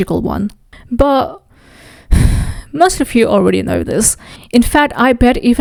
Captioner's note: sighs